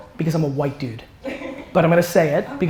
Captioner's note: woman 2 laughs